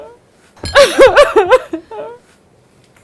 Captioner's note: cries